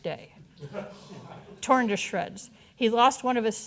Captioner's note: audience chuckling